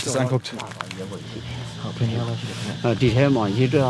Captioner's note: quiet conversations